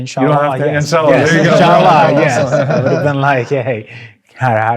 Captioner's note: everyone laughing